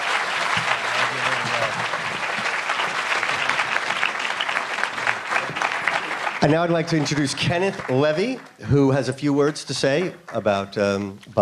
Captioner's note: applause